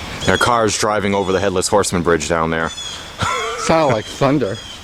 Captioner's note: laughing